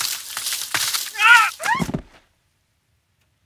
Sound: Mathieu grunts; thuds

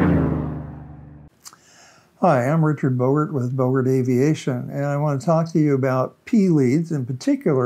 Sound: airplane engine flyby

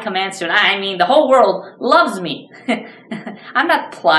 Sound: laughs

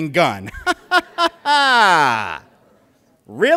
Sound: laughter

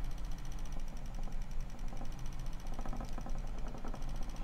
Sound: machine rattles

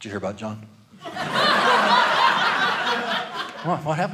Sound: audience laughing

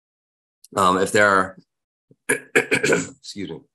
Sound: clears throat

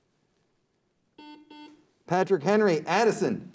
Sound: buzzer beeps

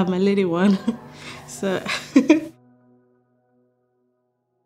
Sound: giggles

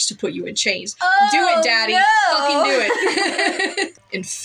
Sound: laugh

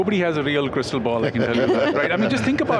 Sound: hosts laugh

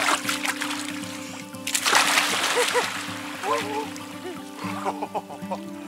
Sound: water splashes; laughs

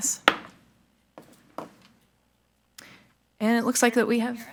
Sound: gavel thuds

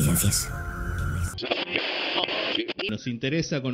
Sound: radio frequency noise

